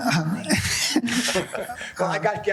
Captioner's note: laughing